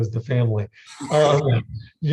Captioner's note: laughs